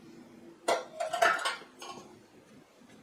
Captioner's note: clanking of metal